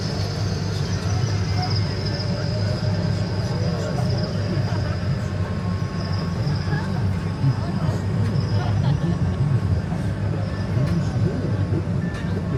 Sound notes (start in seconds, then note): 0.1 riders chatting; 3.2 crickets chirping